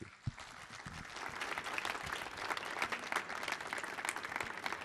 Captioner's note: audience clapping